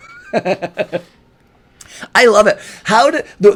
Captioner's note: chuckles